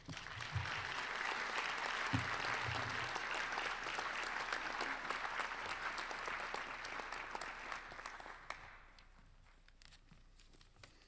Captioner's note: applause